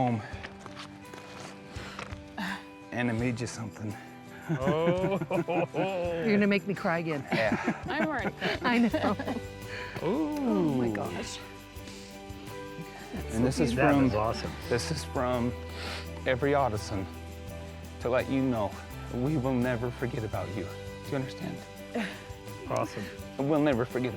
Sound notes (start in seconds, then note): 4.5 everybody happily chuckling; 7.3 chuckling